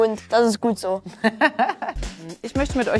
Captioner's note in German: lacht